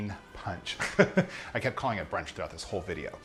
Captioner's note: laughing